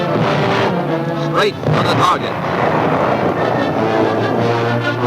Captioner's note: booming